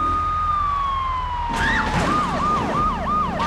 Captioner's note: car engine roaring